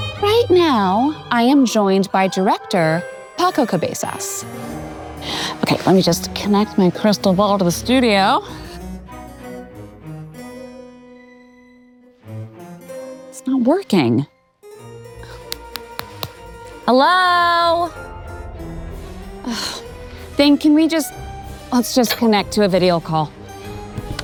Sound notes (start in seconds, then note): 0.0 suspenseful music; 8.9 suspenseful music; 15.3 hand thudding; 18.5 suspenseful music